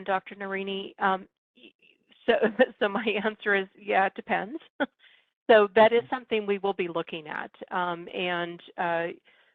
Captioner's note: laugh